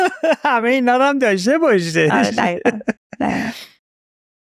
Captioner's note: laughs